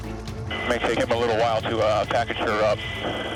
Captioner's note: man Over Radio